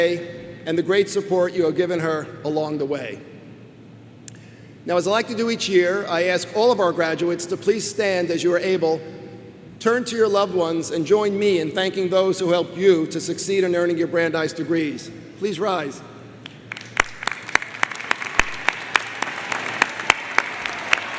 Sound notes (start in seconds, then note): 16.6 crowd applauds